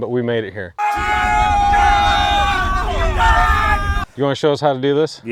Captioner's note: men shouting and exclaiming